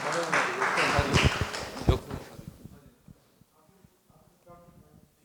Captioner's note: speaking in foreign language